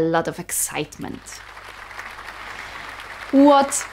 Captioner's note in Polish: oklaski